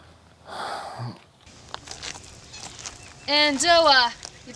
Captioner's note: Kevin sighs; object crunching